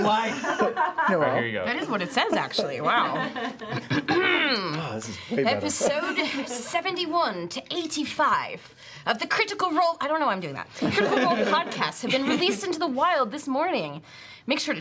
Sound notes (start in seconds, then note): 3.1 accented; 7.5 normal voice